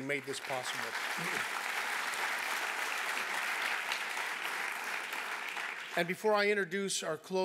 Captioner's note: applause